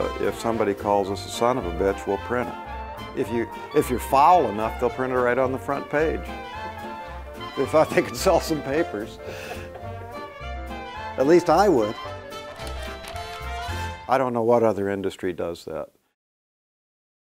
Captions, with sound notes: If somebody calls us a son of a bitch, we'll print it. If you're foul enough, they'll print it right on the front page! [laughing] If I think it could sell some papers! [laughing] At least I would. I don't know what other industry does that.